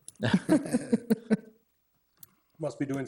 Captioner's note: all laughing